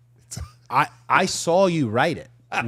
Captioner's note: participant chuckling